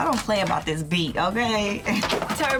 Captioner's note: laughs